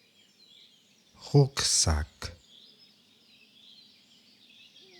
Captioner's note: german